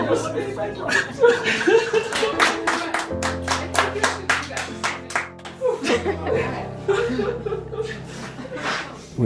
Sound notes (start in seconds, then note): 2.0 clapping and cheers; 2.0 crying and laughing